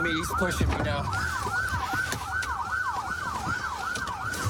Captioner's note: sirens blaring